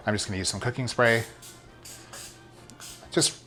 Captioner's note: spray can hissing